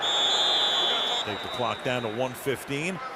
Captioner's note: whistle